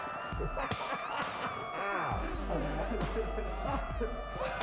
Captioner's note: laughs; groans